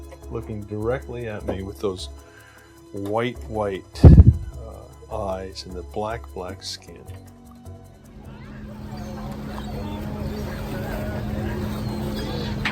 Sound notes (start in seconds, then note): 8.6 waves hitting